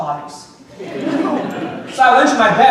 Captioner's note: audience laughing